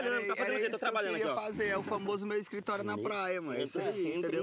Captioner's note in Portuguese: bufando